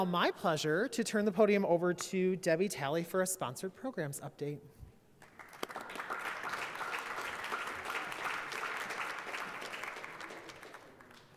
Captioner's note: applause